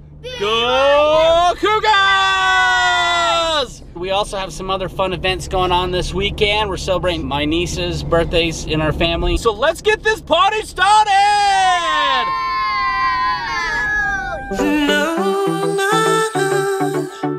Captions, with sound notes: - Go Cougars! We also have some other fun events goin' on this weekend. We're celebrating my nieces' birthdays in our family. So let's get this party started! (kids cheering) (soft music)